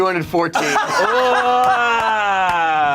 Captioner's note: laughs